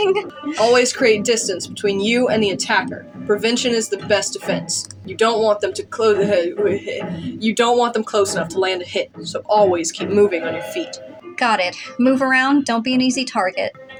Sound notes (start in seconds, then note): 6.4 stammer